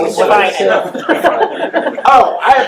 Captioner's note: laughing